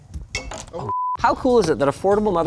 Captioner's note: beep